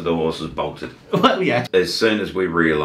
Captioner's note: laughs